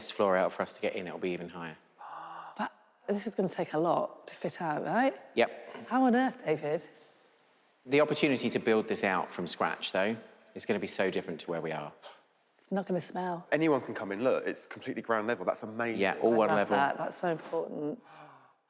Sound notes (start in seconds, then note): none